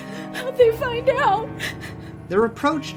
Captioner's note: sobs